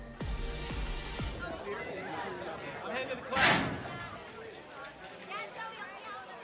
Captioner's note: students chattering